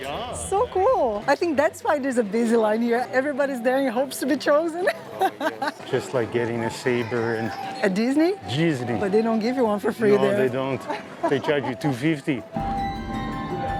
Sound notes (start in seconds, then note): 8.5 in Portuguese